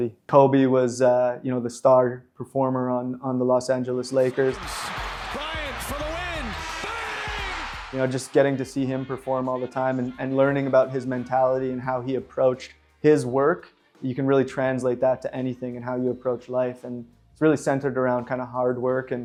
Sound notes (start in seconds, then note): 4.1 crowd cheering; 7.4 buzzer buzzing